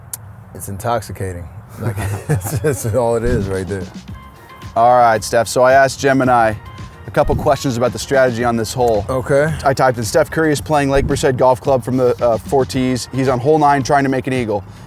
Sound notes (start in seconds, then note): 1.7 laughs